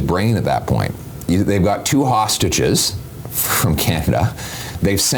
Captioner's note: giggles